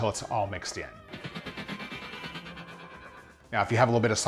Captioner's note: fast forward noise